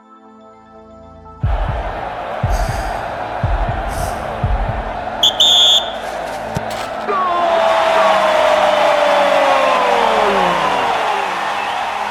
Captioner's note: толкают, свисток, крики